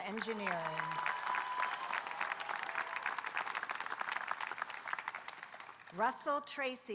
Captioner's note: audience applauding and cheering